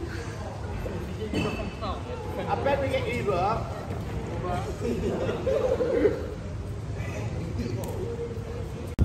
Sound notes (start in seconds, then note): 4.8 everyone laughing